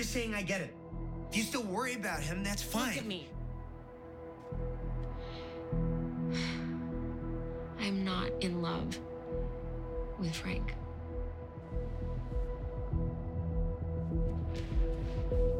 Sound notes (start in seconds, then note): 5.0 breathes deeply